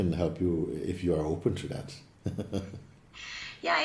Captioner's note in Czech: smích